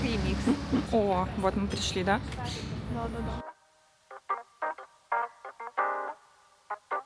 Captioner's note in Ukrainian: сопіння